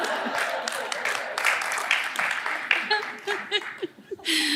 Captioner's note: laughter; applause